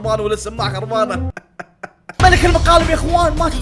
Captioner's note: laughs